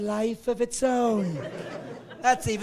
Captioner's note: laughing